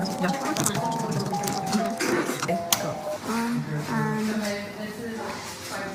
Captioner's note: sped up chattering between girls